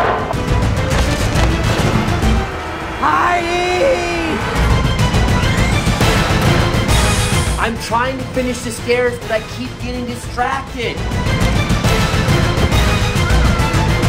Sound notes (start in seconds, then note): 0.3 intense music; 3.0 yells; 4.8 intense music; 4.8 saw buzzing; 11.2 intense music